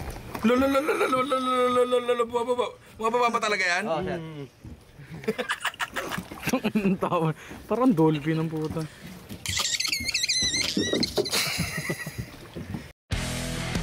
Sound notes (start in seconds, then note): 9.4 dolphin sounds